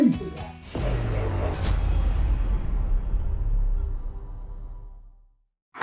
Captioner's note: explosion bangs loudly